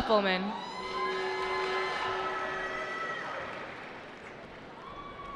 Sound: cheering

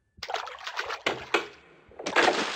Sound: splash; sound of door

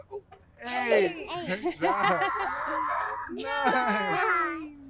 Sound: mother laughs

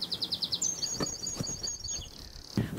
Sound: bird chirping

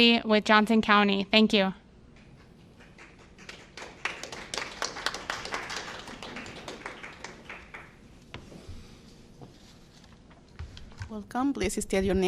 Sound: applause

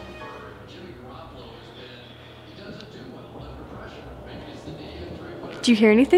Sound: suspenseful music; talking on television in background

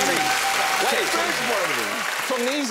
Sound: cheering

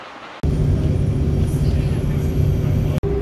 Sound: bus noises

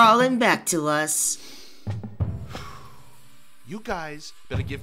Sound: Alef takes a deep breath

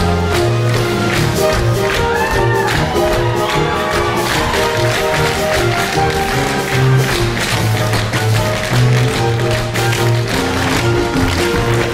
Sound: tap Dance

